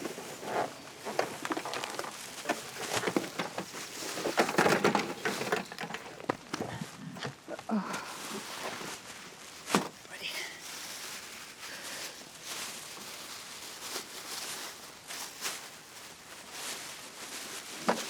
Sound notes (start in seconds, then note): 7.6 Helen grunting